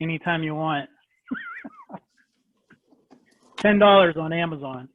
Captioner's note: laughter